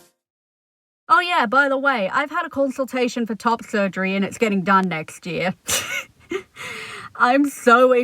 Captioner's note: laughter